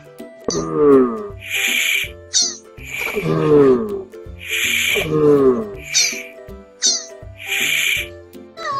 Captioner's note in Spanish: Sonido tortuga